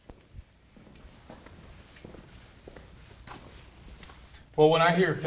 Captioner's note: footsteps approaching